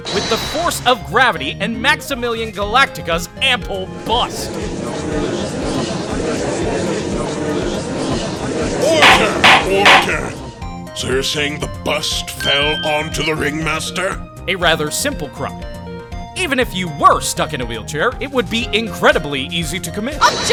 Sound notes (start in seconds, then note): 5.0 gallery chattering!; 9.0 gavel slams!